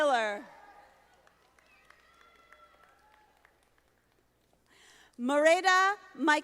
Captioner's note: audience applauding